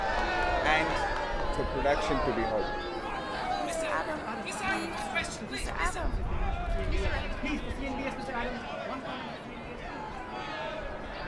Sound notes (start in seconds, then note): 0.2 crowd; 3.5 crowd clamoring, reporters calling